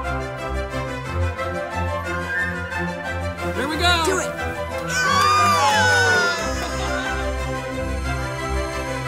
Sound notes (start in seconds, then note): 4.8 cheering; 6.3 bright music